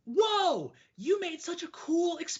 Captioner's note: screams out loud